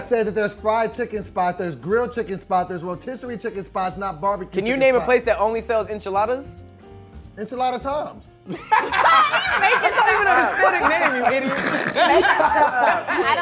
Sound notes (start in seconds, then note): 8.4 group laughing